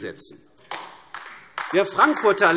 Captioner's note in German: Beifall AfD